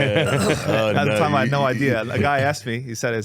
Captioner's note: laughing